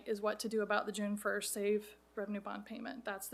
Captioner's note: none